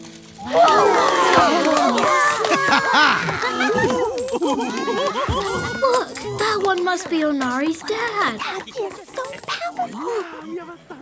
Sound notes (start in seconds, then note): 0.3 cheering; 2.1 children applauding; 2.1 laughs